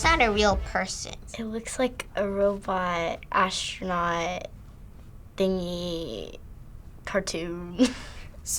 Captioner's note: chuckles